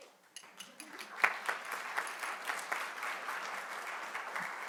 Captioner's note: audience clapping